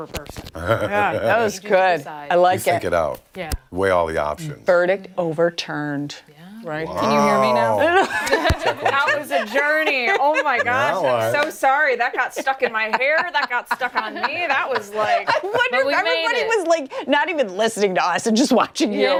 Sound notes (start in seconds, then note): 11.9 laughter